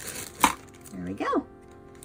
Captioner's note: metal lid clangs